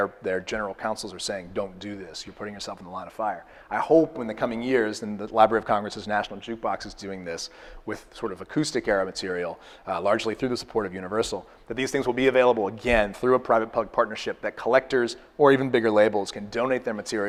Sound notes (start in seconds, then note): none